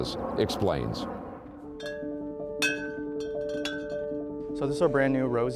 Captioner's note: metal clanking